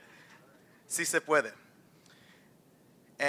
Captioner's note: non-english speech